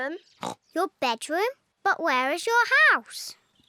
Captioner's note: snorts